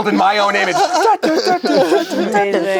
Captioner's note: hums